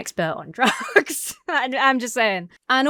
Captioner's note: laughs